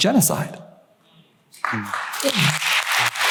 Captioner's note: applause